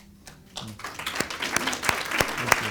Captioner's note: audience applauds